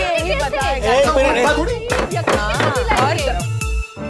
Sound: table banging

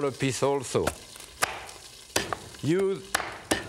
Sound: knife thudding

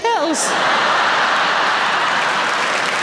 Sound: audience laughing; audience clapping

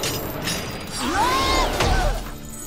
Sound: screaming

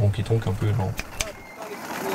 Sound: clap

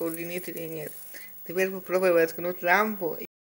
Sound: none

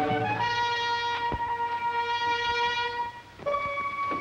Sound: walking

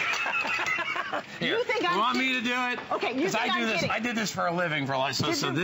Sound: laughter

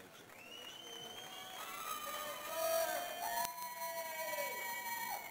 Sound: audience cheers

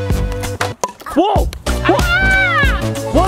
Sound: sings fanfare; ball knocks against paddle

